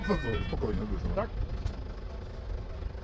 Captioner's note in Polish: rozmowa przez telefon